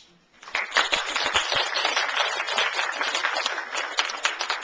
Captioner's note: applause